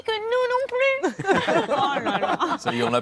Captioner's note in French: rires